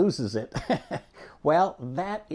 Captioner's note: laughing